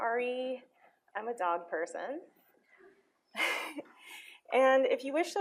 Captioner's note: laughs